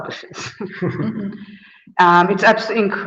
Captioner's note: laughs